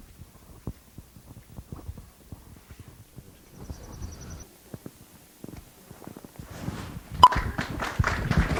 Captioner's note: silence; applause